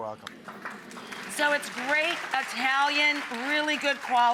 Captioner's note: audience applauding